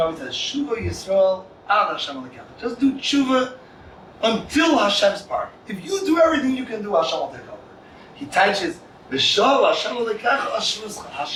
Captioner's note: Hebrew